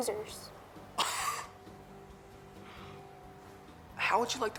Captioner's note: Ozz scoffs